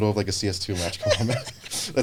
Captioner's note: laughing